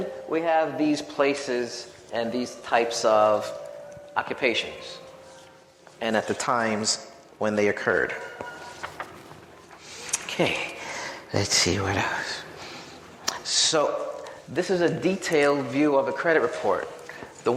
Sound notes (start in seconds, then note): none